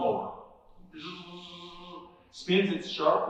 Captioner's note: buzzing sound